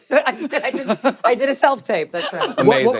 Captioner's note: laughs